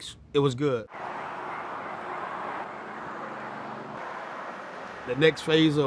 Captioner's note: traffic sounds